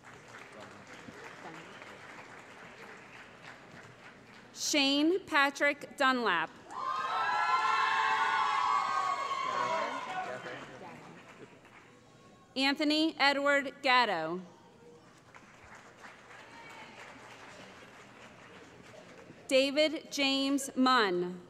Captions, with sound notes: [ Applause ] Shane Patrick Dunlap [ Cheering ] Anthony Edward Gatto [ Applause ] David James Munn